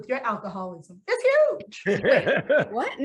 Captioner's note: actors laughing